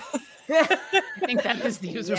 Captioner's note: people laughing